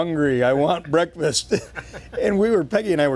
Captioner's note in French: rires